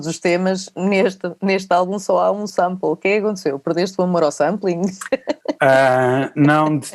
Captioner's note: laughs